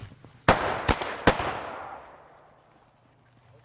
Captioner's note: booming